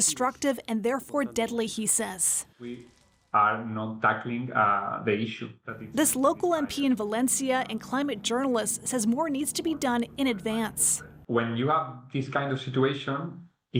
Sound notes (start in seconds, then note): 1.4 speaking alternate language